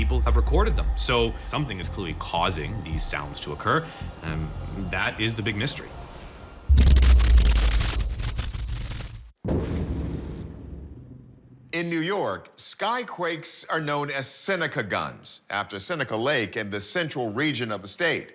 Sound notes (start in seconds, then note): 6.6 loud explosion